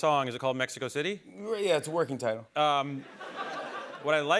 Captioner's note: laughter